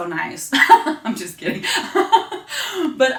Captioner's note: laughing